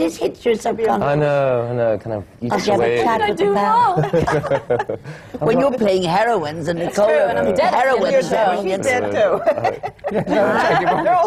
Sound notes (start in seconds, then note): 9.2 laughs